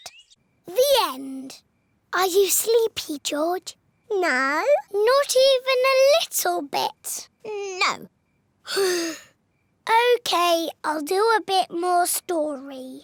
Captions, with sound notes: The end. Are you sleepy, George? -No. -Not even a little bit? -No! -(SIGHS) Okay, I'll do a bit more story.